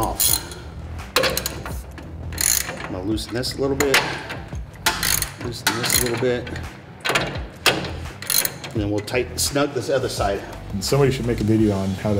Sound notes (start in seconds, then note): 1.0 ratchet noises; 4.8 ratchet cranks; 7.0 ratchet cranks a few times